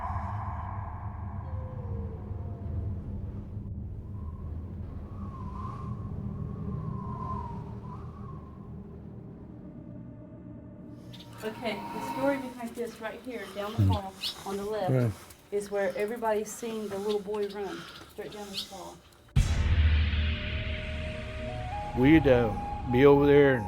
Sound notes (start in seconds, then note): 0.3 haunting music; 3.8 wind whistling; 8.2 haunting music; 19.3 intense music